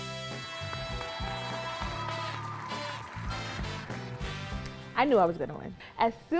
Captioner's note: upbeat music; audience applauding